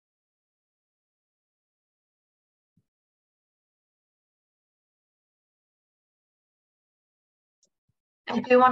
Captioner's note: silence